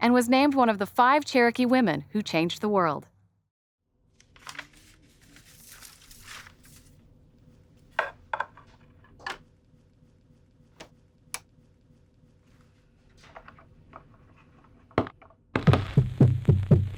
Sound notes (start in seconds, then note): 4.2 delicate paper rustles. Knob clicks